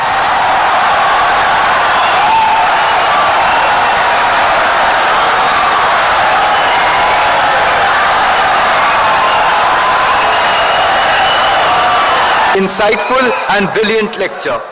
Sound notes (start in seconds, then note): 0.0 wild applause and cheering for 17 seconds